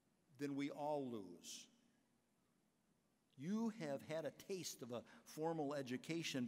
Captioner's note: none